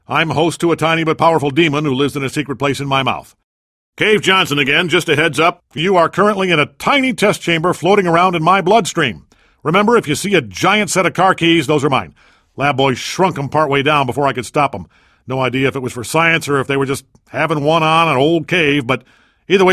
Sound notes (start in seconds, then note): none